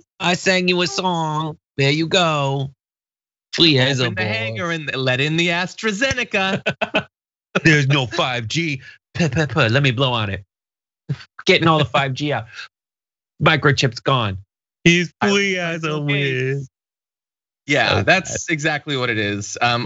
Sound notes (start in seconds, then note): 6.0 laugh